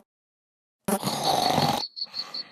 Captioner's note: snore